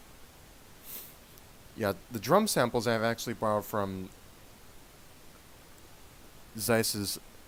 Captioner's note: sniff